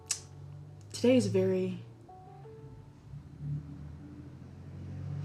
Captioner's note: car vroom